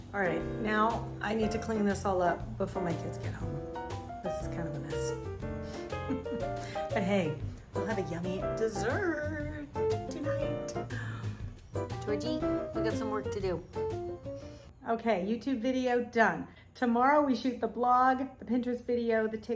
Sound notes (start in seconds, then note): 5.7 laughs